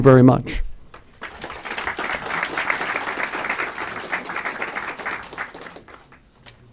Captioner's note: clapping